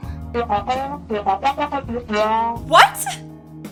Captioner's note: Charlie Brown womp womp